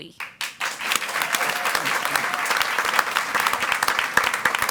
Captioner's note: audience applauds